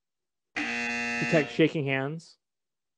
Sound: buzzers

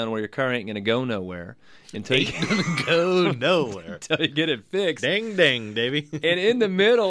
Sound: both laugh

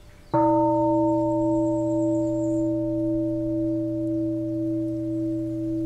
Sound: bell

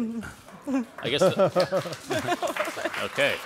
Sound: audience applauds

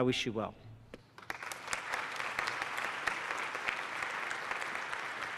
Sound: applause

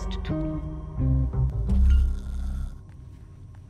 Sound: snoring

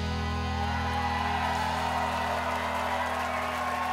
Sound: cheers and applause

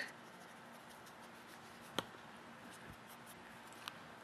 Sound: soft dry swishing

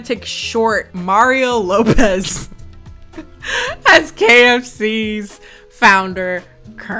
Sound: laughs

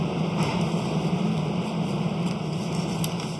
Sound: engine hums in the background

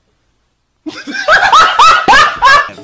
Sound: hysterical laughter

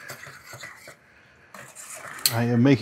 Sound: scrabbing pan sound

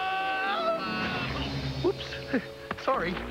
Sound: thud

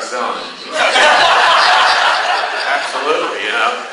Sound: class laughs

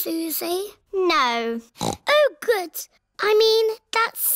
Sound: snorts

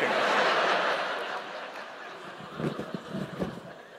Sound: laughter

